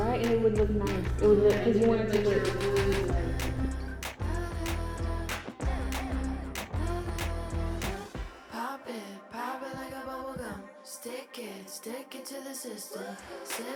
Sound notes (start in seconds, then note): 1.4 girls agreeing; 3.3 upbeat pop music